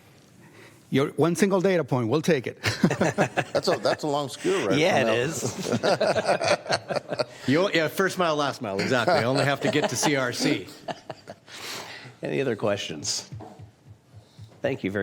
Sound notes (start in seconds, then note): 5.1 laughter